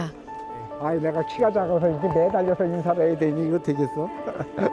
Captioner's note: laughter